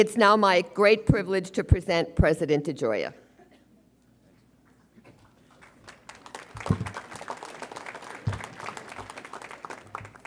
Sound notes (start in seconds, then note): 5.5 audience applauds